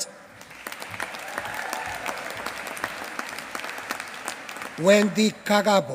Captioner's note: applause